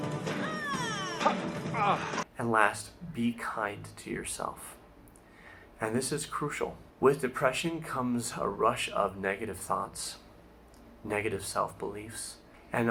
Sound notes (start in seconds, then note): 1.7 grunts of pain